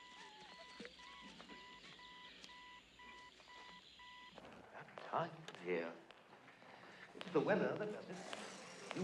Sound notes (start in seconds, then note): 4.3 english accent